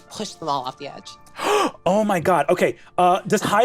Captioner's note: gasps